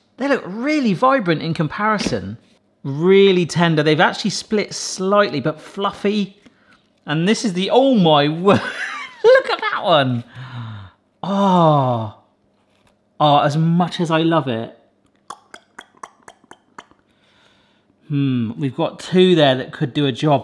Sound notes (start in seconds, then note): 9.2 laughs; 15.1 tongue clicking